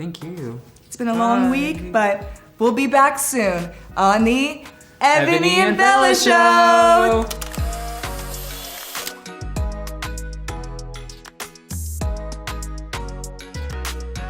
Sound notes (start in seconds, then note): 7.2 camera clicks; 11.5 gentle music